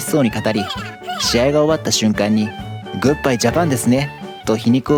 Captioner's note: laughs